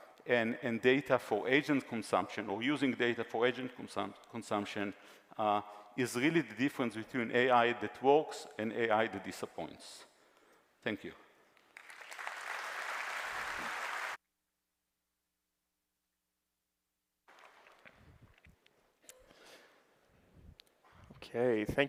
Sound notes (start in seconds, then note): 11.6 applause